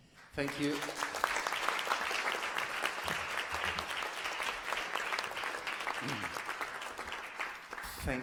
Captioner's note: applause